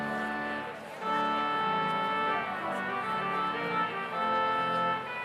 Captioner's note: none